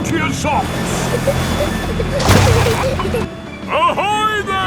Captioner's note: peppa and george giggling